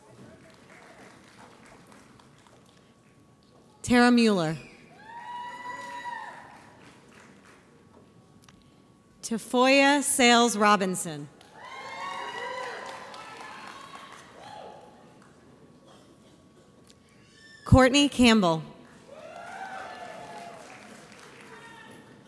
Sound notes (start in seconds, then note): 0.0 audience applauds; 5.7 audience applauds; 11.5 audience cheers; 19.0 audience applauds